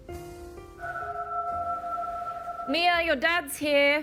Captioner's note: door bell ringing